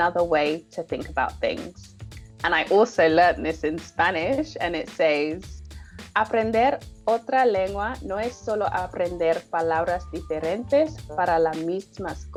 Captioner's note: speaking spanish